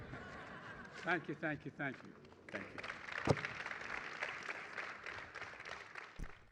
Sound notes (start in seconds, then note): 0.0 laughter; 5.4 applause